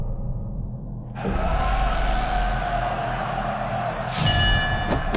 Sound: applauses, cheers

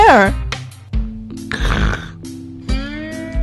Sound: snoring

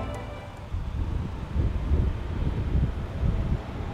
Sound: wind whipping

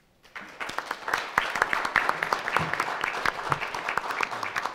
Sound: audience applauding

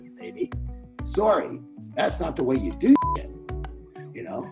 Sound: beeping

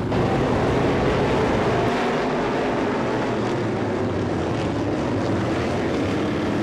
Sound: multiple loud engines roaring

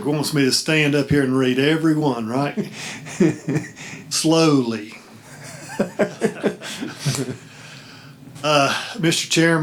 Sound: laughing

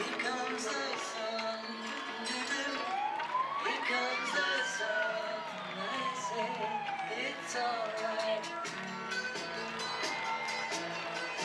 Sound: cheering

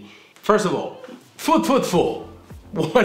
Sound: speaking in Polish

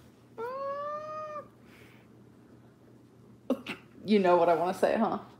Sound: laughs

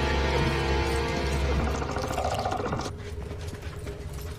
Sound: scary music; centipede growls

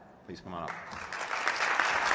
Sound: applause

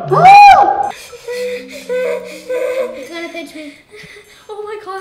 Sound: panting heavily

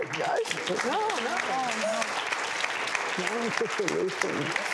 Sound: applauding

